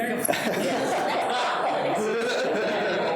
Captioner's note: people laughing